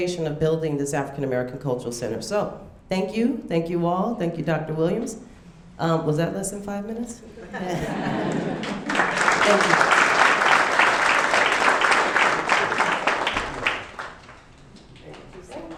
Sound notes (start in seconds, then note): 8.0 audience clapping